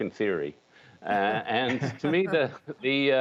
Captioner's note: laughter